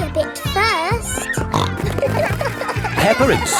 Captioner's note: snorting